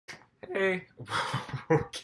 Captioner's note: voice cracks